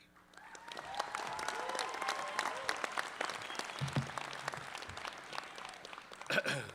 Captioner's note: clapping, cheering